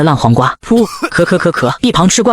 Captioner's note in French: Tousse !; Pouf !